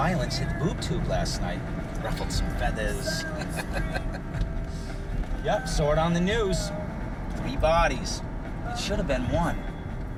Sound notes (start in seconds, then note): 3.2 chuckling